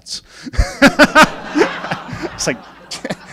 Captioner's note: laughing